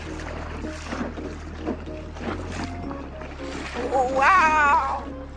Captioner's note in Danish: vand sprøjt